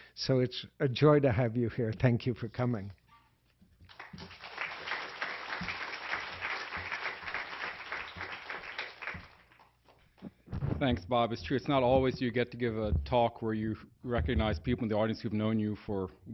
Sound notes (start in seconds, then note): 3.8 clapping